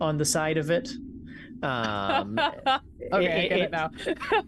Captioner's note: laughs